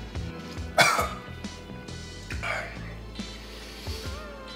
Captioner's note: coughs